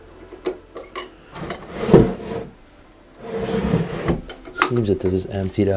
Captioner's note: opening and closing drawers